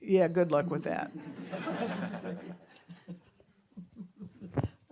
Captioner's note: audience laughing